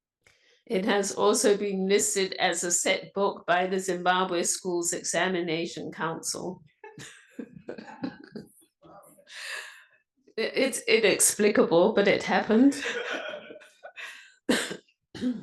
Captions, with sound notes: since it was published. It has also been listed as a set book by the Zimbabwe schools examination council. [laughter] It's inexplicable, but it happened.